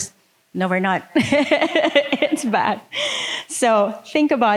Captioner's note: laughing